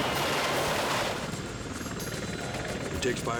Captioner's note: helicopter blades whirring